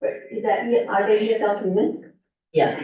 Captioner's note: muffled voice